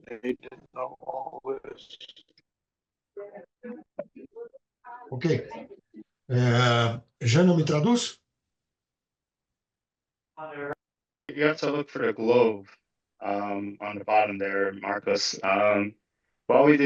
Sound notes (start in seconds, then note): 8.3 speaking Portuguese